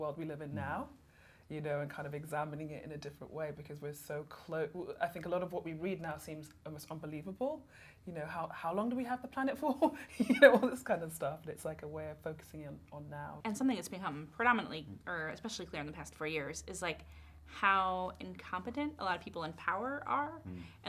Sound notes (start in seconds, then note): 9.5 laughs